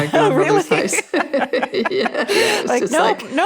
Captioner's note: both laughing